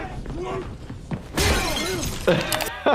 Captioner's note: men yelling; glass breaking